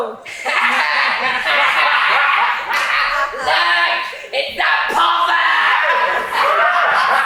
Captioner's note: Meanies laugh; continue laughing